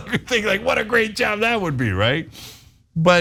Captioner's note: laugh